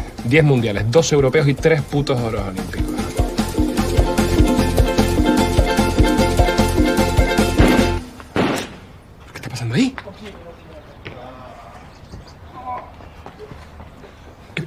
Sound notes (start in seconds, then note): 8.3 shots; 10.4 groaning